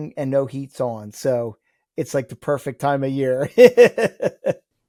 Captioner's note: laughs